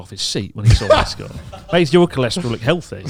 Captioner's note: and announcer laughing